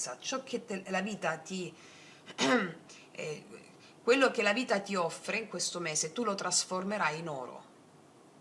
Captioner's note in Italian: schiarire la voce